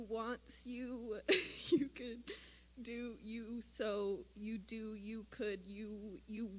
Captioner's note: chuckle